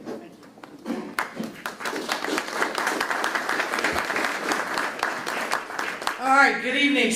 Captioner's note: applause